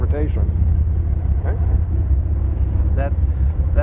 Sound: loud rumbling noise

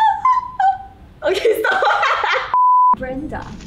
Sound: laughs

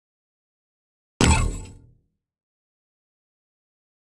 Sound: sound of robot

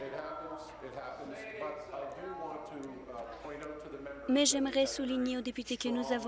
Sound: chorus of "No"

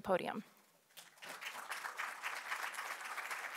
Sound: applause

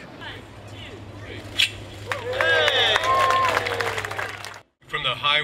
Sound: applause

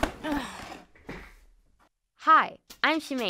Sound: grunt of effort

